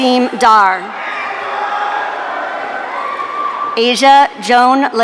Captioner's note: audience cheering